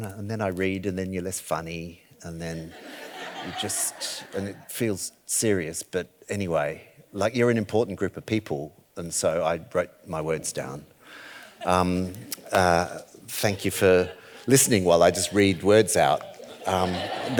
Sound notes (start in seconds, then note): 2.7 audience laughing